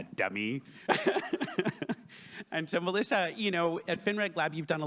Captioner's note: laughs